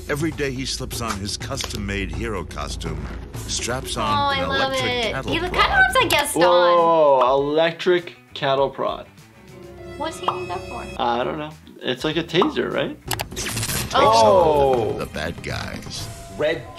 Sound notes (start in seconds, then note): 9.0 intense music; 13.2 cattle prod buzzes